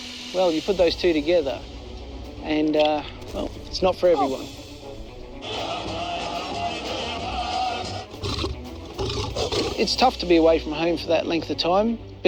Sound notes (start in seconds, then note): 5.4 crowd chanting; 8.1 lion growl